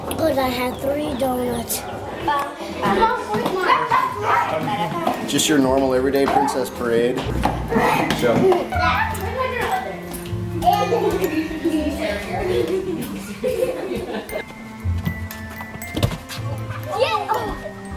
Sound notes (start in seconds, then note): 8.9 laughing; 15.3 soft music